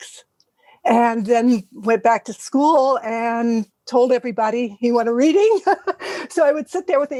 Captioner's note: laugh